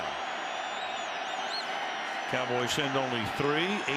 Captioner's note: cheering